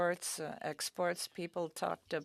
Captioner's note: speaking French